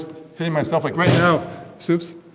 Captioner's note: bang